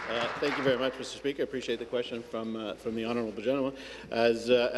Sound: applause

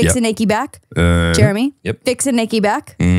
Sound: groans

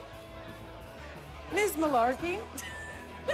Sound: newscaster voice; laughing

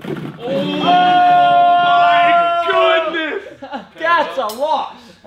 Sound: cheering

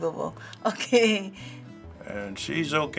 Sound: laughing

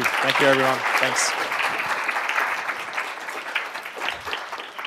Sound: applause

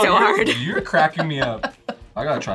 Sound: laughs

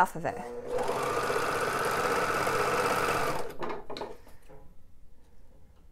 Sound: sewing machine whirring

